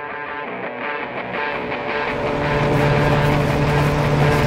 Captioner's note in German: motor heult